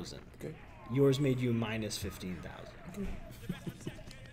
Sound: laugh

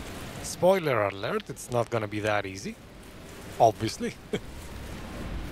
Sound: laughs

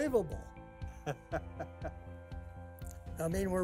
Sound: laughing

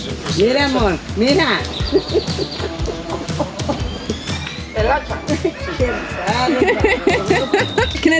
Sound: laughing; speaking Spanish; laughing

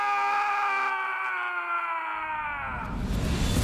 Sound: yells

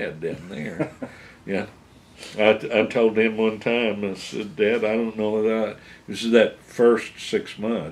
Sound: laughs

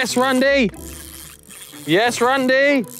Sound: reel creaking

